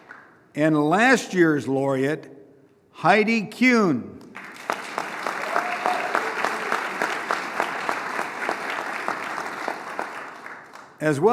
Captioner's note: applause